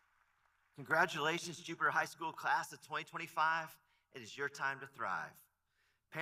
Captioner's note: applause